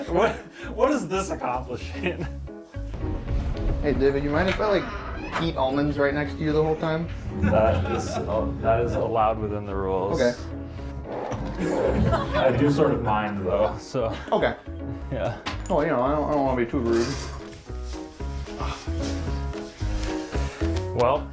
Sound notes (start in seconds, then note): 0.6 laughing; 10.6 audience laughter